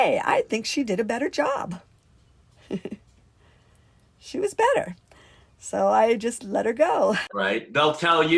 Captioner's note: laughs